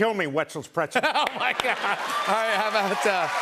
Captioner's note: cheers and applause